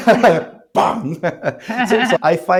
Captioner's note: laugh